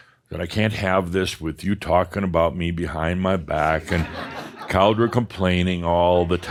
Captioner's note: some chuckles